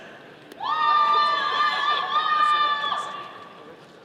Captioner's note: all cheering